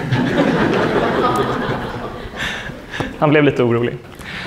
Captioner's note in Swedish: skratt